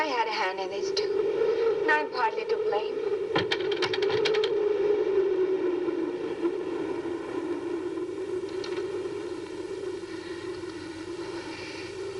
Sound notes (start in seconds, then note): 4.2 shutters rattling